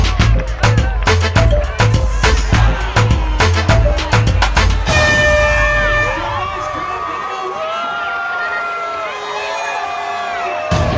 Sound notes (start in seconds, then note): 4.8 air horn blowing; 6.6 crowd cheering